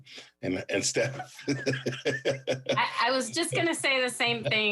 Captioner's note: laughs